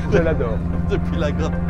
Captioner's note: laughter